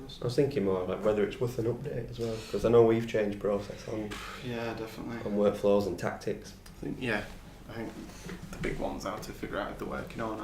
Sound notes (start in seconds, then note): none